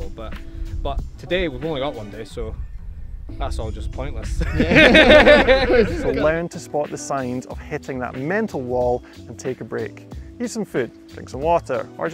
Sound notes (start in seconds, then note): 4.4 men laughing